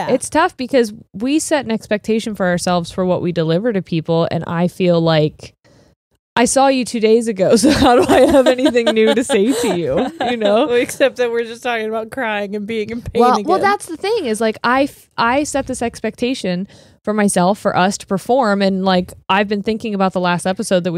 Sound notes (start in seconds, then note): 10.9 laughs